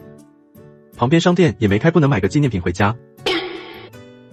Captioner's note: crying